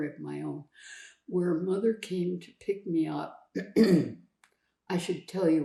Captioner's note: clears throat